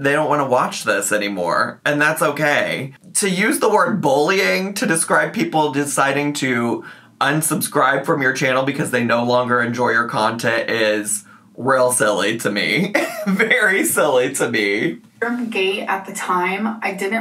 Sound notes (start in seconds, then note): 12.8 laughs